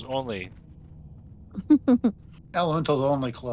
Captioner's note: laughing